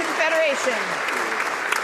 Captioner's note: some Applause